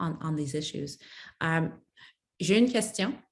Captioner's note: speaks French